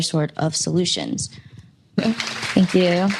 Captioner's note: applause